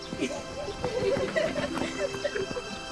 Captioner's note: children laughing